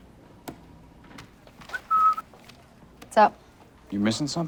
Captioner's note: whistles